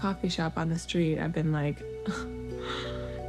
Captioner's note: sigh